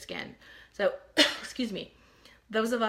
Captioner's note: coughs